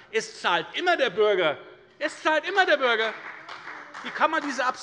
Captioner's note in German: Beifall bei der FDP und der CDU